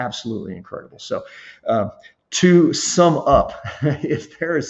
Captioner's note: laughs